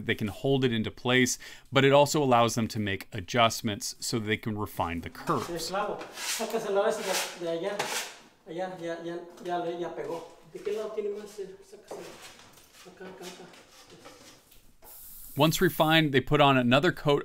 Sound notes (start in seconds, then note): 13.7 spanish Speaking